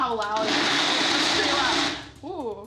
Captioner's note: blender revving